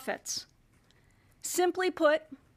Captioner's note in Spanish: HABLA EN INGLéS